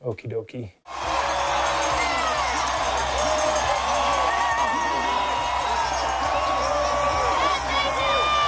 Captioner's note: cheering